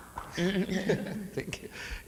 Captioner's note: audience member claps; panelists laugh